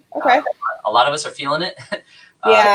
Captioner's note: laughs